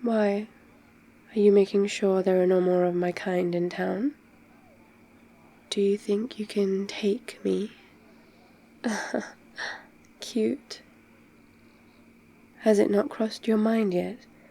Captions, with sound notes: why? are you making sure there are no more of my kind in town? do you think you can take me? *laughs* cute has it not crossed your mind yet